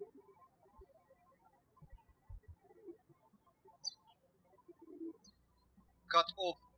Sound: birds chirping

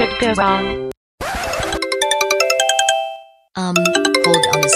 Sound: ringtone

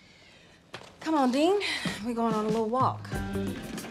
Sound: sighs

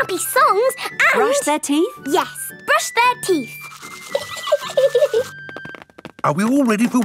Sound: giggling

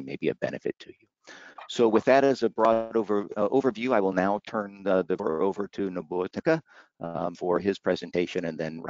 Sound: audio skip

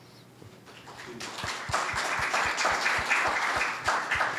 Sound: applause

